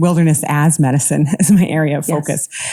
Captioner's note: chuckles